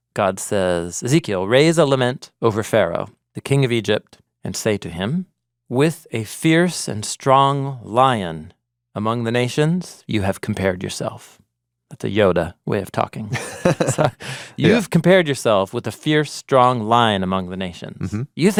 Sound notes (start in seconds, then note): 13.3 chuckling